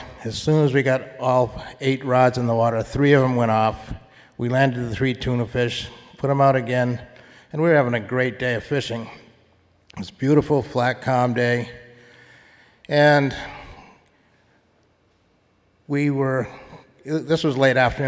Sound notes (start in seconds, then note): none